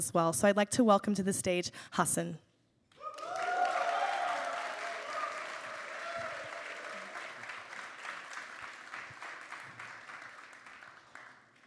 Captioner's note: applause